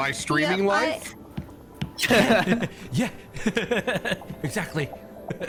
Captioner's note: all streamers sympathy laughter